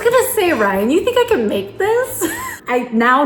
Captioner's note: chuckles